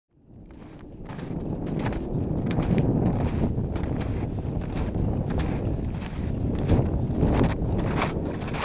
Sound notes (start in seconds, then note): 1.5 footsteps crunching on snow; 3.5 wind blowing